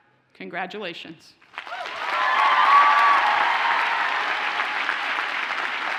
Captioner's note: audience cheers and applauds